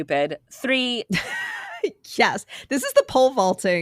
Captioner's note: laughing